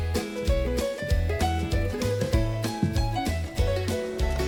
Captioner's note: steps approaching